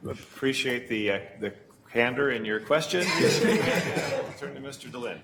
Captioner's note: laughing